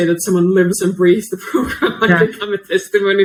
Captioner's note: laughs